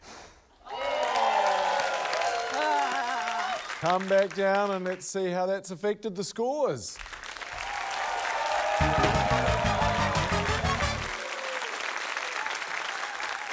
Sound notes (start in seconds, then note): 0.0 blows air; 0.6 cheering, applause; 7.0 applause, cheering